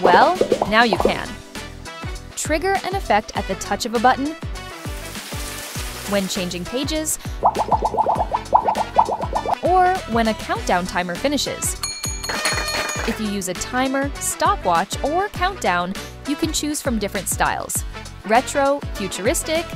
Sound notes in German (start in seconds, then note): 7.2 Blubbergeräusch; 12.1 Klingeln, Klatschen